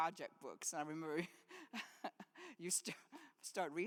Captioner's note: laughs